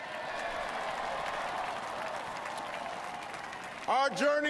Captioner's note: applause